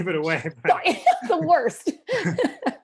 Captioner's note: laughter